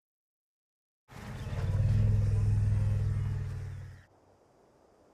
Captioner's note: rumbling